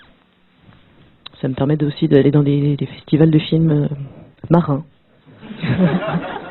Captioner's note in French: rires